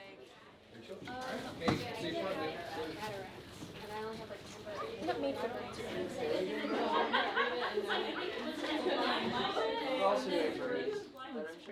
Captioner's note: general chatter around the room